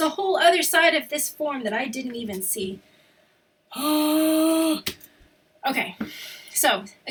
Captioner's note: exhausted exasperated sound